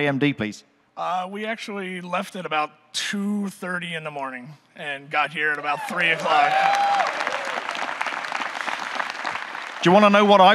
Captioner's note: audience cheering, clapping